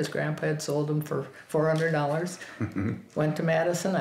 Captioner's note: chuckles